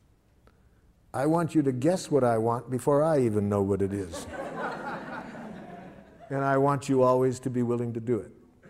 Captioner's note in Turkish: Gülüşmeler